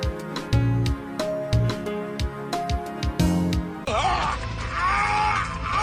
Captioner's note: upbeat music; screaming